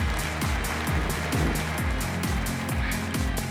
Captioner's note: applause